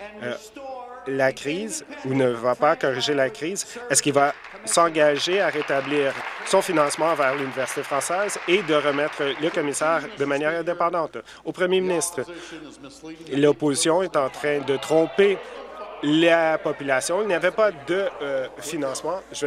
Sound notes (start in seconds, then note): 10.0 applause